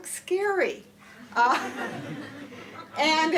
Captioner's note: laughter